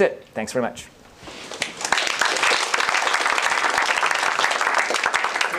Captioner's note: applause